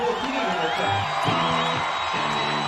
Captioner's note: crowd cheering